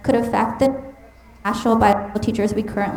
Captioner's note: mic cutting out